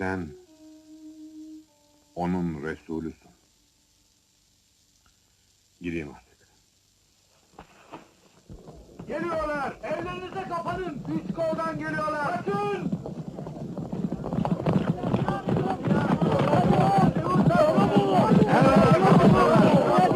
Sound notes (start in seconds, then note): 14.7 indistinct shouting